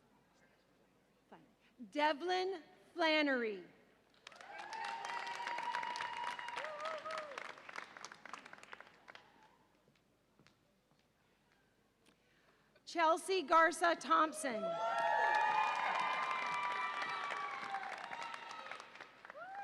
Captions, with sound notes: Devlin Flanary. (audience applauds and cheers) Chelsea Garza Thompson. (audience applauds and cheers)